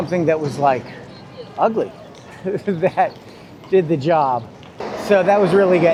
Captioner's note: laughs